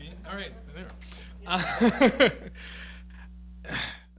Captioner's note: laughing